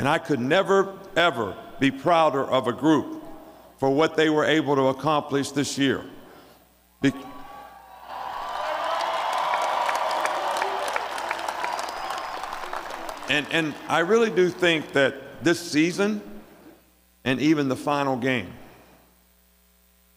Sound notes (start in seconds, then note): 10.1 cheering; 12.1 applause